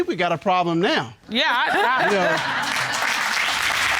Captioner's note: stammers